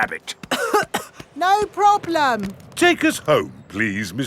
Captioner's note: coughing